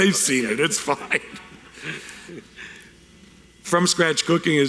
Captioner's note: laughing